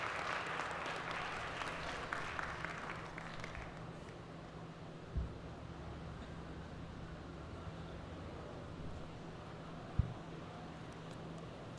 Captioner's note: applause